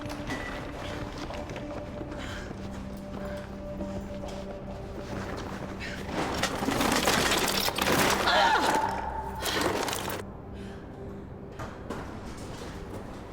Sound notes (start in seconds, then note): 0.2 dramatic music continues; 2.2 Abbey groaning; 2.2 metal clanking; 8.2 Abbey groaning